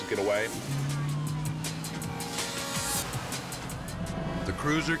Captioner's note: suspenseful music; engine revving